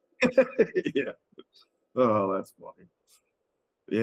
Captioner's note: laughing